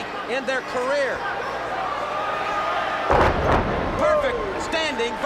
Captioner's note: crowd chatter